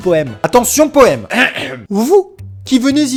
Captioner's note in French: grattement de gorge